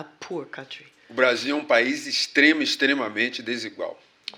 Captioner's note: speaking portuguese